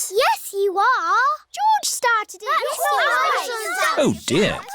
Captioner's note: all arguing